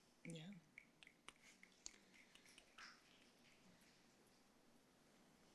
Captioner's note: snapping fingers